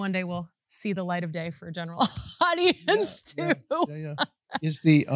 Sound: laughs

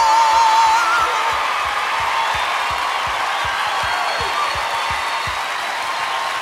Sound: cheers and applause

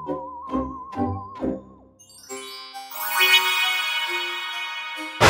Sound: magic noises

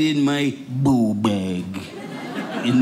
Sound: audience laughing

